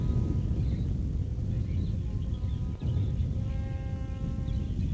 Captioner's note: volcano rumbling